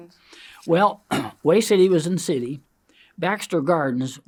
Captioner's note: clears throat